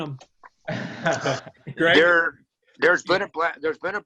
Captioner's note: laughs